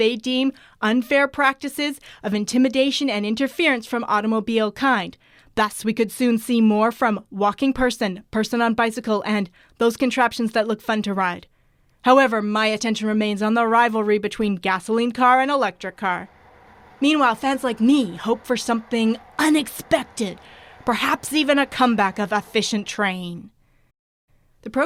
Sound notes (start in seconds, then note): 19.8 train sounds